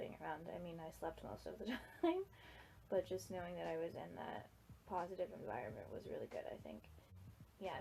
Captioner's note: laughs